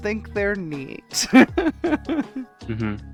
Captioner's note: laughs